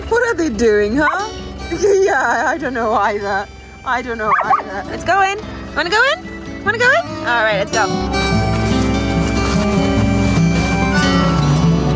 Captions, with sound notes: What are they doing, huh? (Vilk barking) Yeah, I dunno either. I dunno either. (Vilk barking) Let's go in. Wanna go in? Wanna go in? All right, let's go. (blue grass music)